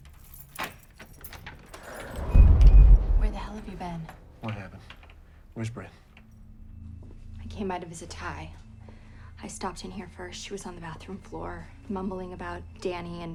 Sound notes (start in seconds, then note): 0.1 door latch clicks; 1.7 door whooshing